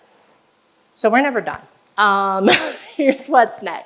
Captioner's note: laughs